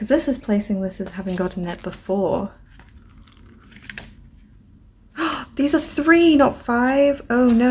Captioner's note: gasp